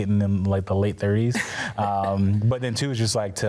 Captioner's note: laughs